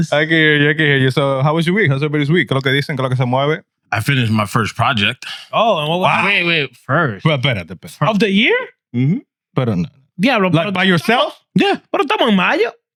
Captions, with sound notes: I can hear you, I can hear you. So how was your week? How was everybody's week? (Speaking In Foreign Language) I finished my first project. Oh, wow. Wait, wait, first. Well, better, the better. Of the year? Mm-hmm. Better not. Yeah, but-- Like by yourself? Yeah, but I'm talking about you.